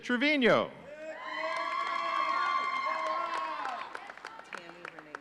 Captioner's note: audience cheering